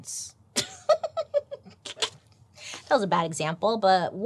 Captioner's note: laughs